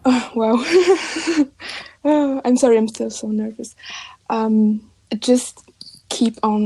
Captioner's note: chuckles